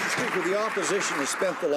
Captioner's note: some Applause